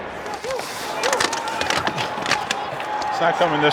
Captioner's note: team members grunt